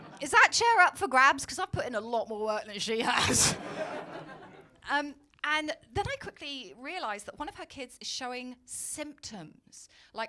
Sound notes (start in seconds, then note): 0.0 audience laugh; 3.4 audience laughing